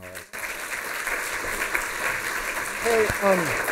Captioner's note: applause